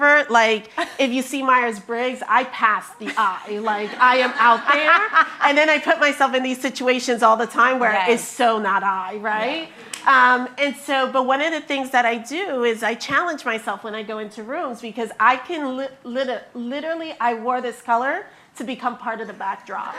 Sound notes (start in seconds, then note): 3.0 chuckles; 3.0 attendees laughing